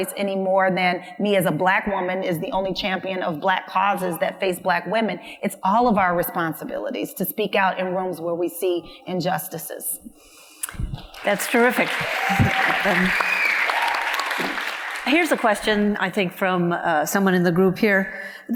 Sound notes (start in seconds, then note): 11.0 audience applauds; 11.1 audience cheers